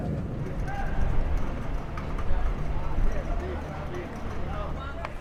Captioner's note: shouting